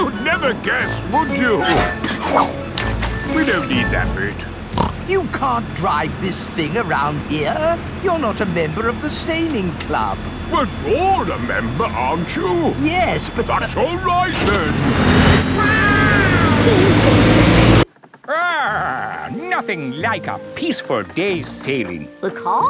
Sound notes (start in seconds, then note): 2.6 splashes; 4.6 snorts; 15.6 laughing